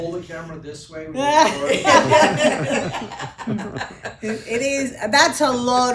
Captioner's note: panelists laughing